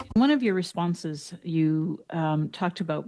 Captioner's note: speaking French